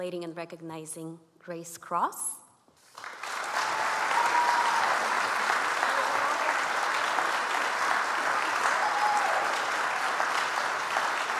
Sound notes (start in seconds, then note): 2.9 audience applauds